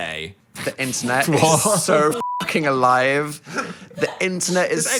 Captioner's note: beep